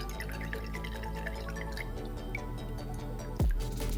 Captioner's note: pours liquid